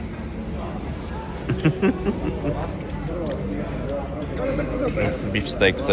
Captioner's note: laughter